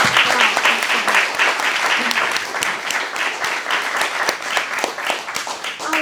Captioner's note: applause